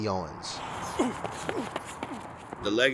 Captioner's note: athletes grunting